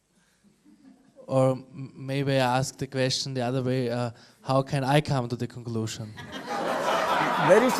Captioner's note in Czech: smích